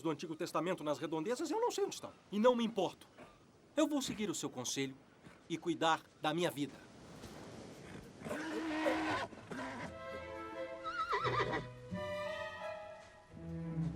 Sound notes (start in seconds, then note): 8.2 horse moans; 10.8 neigh